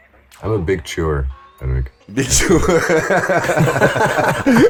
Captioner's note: laughters